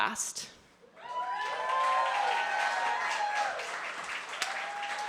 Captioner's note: applause